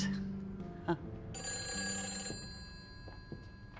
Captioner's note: ringing